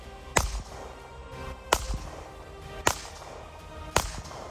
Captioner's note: gunshot